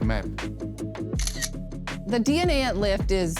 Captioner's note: camera shutter